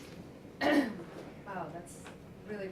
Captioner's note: clears throat